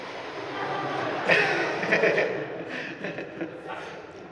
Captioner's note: people laughing